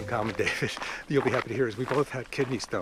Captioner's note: laughs